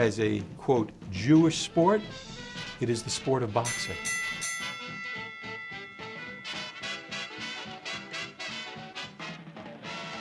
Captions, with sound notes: as a "Jewish sport", it is the sport of boxing. (bell rings) (dramatic music playing)